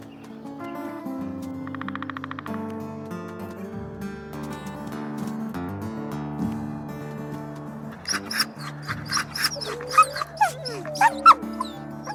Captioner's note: sounds of The Wild